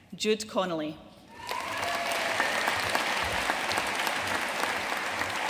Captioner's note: audience cheering and applauding